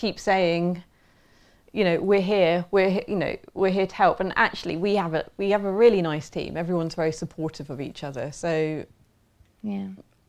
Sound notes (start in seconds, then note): none